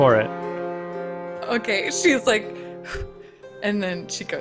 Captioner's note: exhales loudly